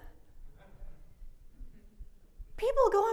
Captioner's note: audience laugh